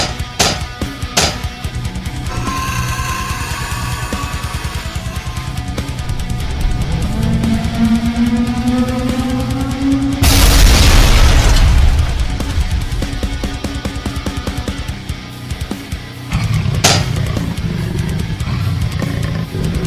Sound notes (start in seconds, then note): 2.1 scorpion beast shrieks; 7.1 tentacle beast blares; 10.1 ground crashes; 16.3 legs clank